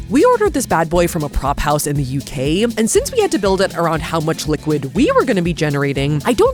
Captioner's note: none